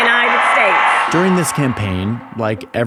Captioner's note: audience cheering